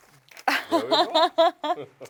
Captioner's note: laughs